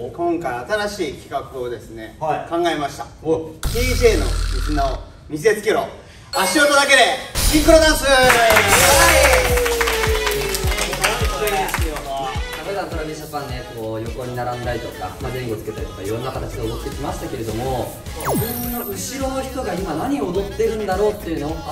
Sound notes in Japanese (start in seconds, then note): 8.2 拍手